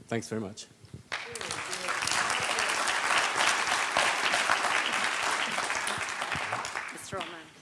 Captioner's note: applause